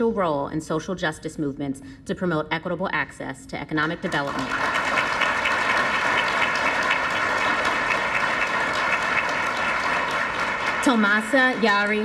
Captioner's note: applause